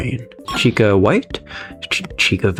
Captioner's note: inhales Oxygen